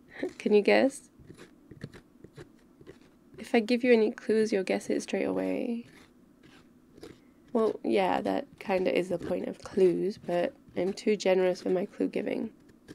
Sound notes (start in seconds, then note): none